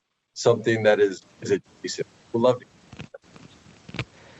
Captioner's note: voice distorted